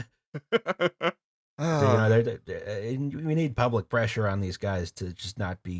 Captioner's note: laughter